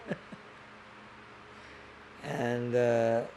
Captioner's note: laughing